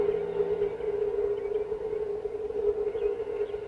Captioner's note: birds chirping